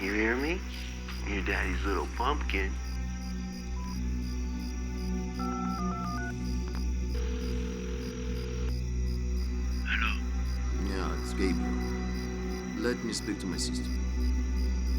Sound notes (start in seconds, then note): 0.2 John on speaker; 5.6 dialing; 7.1 line rings